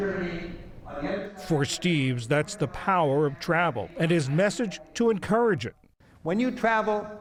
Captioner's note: voice-over